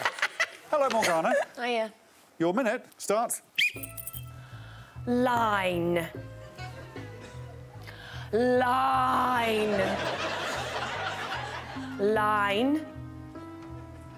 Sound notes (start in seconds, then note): 1.1 audience applauding; 6.1 blows whistle; 8.0 slow upbeat music; 12.2 audience laughing